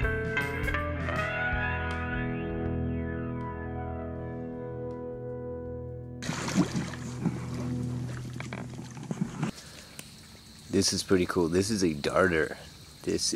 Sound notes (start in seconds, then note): 4.2 music fades; 6.2 water splashing